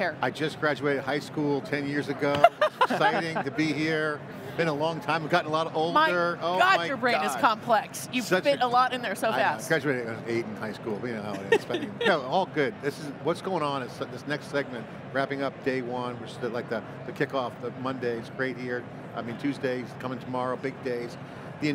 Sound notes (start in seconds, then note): 2.3 all laughing